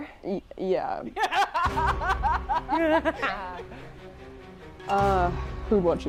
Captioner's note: frenzied laughing